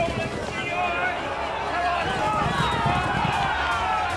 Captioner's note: spectators cheer; momentous music